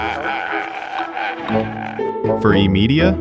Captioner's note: crying